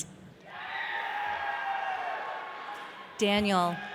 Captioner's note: audience cheering